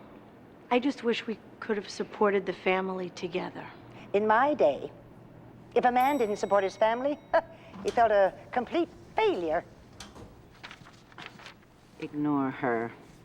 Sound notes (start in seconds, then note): 7.2 scoffs